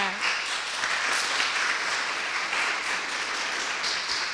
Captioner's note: audience applauding